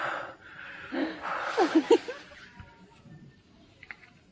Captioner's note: laughing